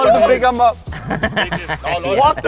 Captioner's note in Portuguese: Risadas